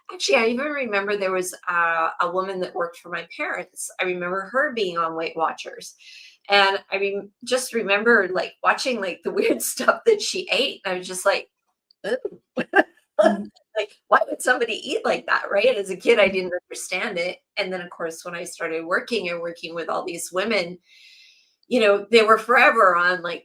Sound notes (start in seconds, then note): 12.5 laughs